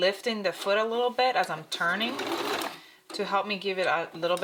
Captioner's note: sewing machine whirring